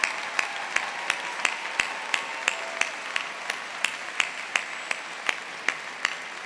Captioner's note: audience continues applauding